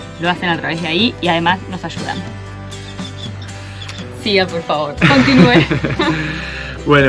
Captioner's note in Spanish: risas